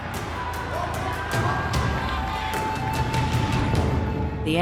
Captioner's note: audience cheering